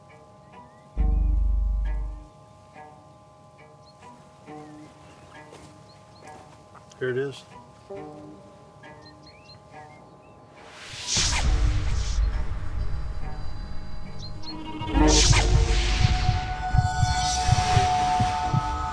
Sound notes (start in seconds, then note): 11.7 gunfire pops; 14.0 heartbeat thumping